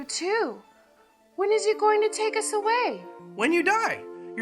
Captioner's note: none